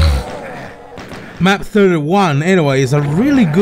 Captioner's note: snoooooooooooooort